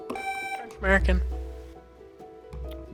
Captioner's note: buzzer sounding